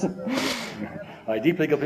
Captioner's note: laughter